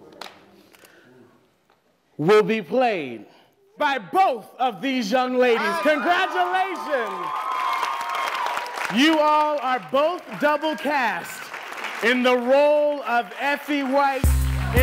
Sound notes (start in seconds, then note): 7.6 applause